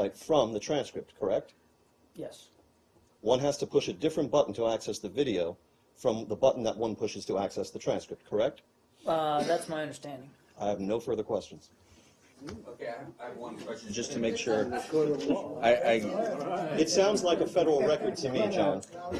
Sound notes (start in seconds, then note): 17.2 laughter